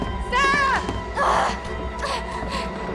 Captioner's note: Sarah groans